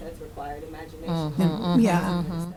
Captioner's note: voice muffled